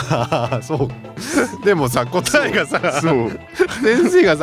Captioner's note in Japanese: 笑い